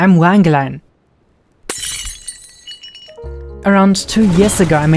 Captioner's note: glass Shattering